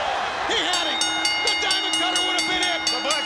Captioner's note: bell ringing